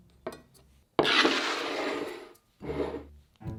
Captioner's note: bowl sliding